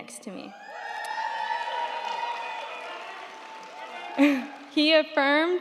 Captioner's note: crowd cheering; crowd clapping